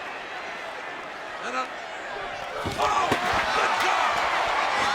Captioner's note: overlapping yelling